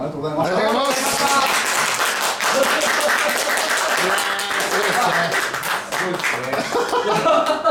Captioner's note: all applauding